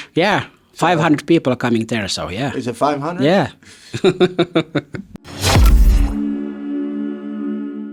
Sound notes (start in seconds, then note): 3.9 chuckles; 5.3 energetic music